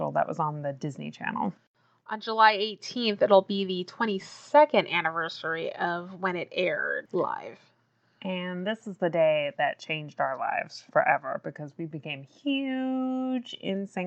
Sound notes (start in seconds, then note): none